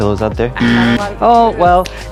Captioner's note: buzzer honks